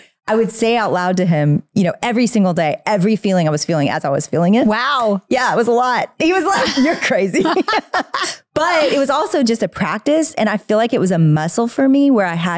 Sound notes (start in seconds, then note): 6.5 laughing